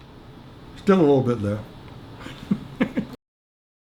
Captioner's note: laughs